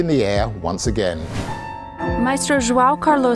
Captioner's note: air whooshing